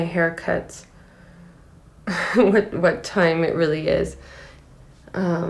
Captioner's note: laughing